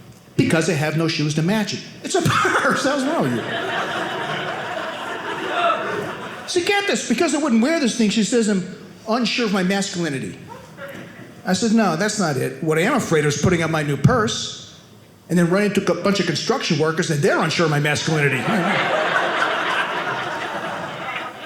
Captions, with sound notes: Because I have no shoes to match it. It's a purse, that's why. (audience laughing) So get this. Because I wouldn't wear this thing, she says I'm unsure of my masculinity. I said, no, that's not it. What I am afraid of is putting up my new purse, and then running into a bunch of construction workers and they're unsure of my masculinity. (audience laughing)